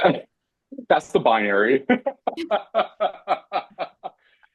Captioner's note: laughs